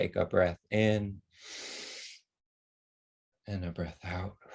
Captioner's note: inhaling and exhaling